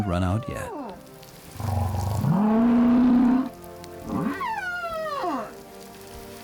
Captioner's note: grunting, squeaking